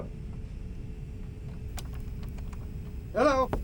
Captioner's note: door Handle Rattles